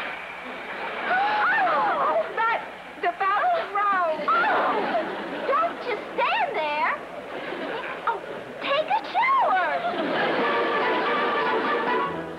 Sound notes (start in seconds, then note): 1.1 gasps